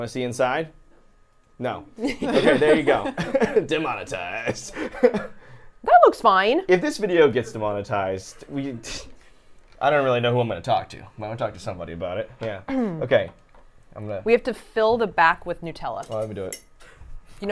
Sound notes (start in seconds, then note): 2.0 laughing; 4.6 laughs